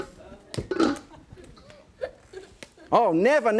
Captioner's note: audience laughing; popcorn popping; wok lid set down